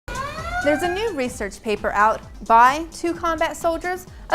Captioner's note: siren wailing